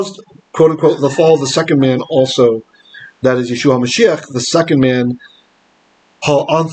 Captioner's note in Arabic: العبرية